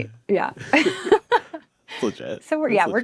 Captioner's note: group laughing